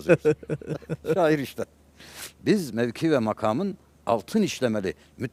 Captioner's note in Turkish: kahkaha